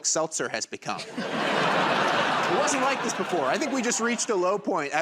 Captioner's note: laughter and applause